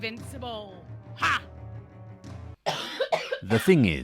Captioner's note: violent coughing